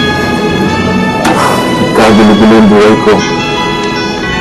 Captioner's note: exhales